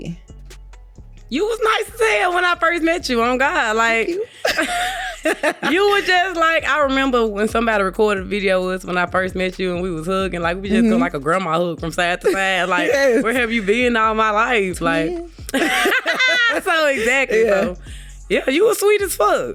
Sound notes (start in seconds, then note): 15.5 laughter